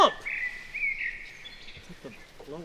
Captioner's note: birds chirping